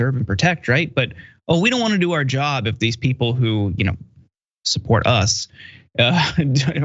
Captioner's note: laugh